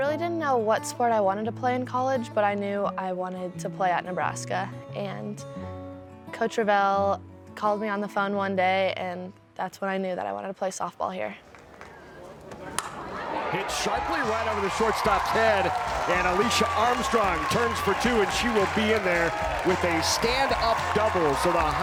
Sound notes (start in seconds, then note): 12.4 bat cracks; 15.7 crowd cheering